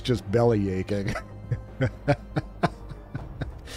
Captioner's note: laughs